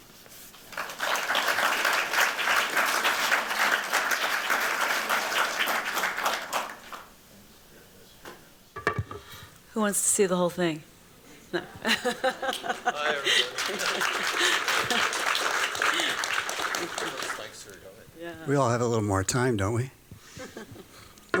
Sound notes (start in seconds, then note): 0.4 applause; 11.5 laughter; 12.4 applause